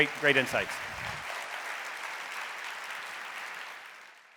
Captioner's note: audience applauding